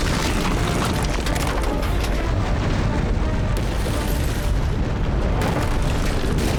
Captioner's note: gunshot